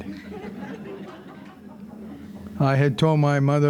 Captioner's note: audience laughing